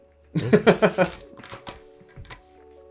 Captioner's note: laughing